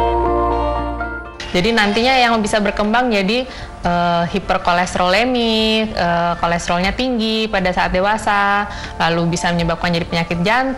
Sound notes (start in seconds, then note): 2.0 non-english speech